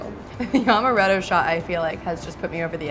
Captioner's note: laughs